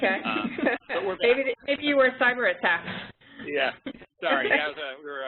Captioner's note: laughter